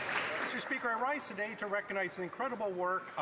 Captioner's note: applause